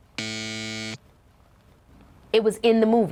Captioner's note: alarm buzzes